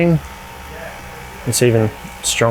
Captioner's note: fan blows louder